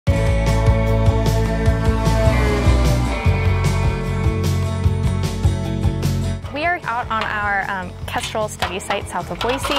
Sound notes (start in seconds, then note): 0.0 truck horn sounds; 2.1 light, upbeat music plays